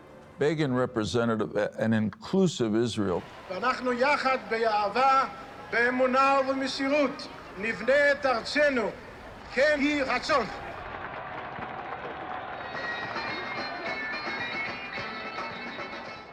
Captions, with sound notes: - Begin represented an inclusive Israel. - We will build our country together with love, faith, and devotion with God’s help. [crowd applauding] [upbeat music]